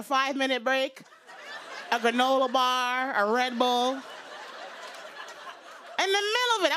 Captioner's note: laughter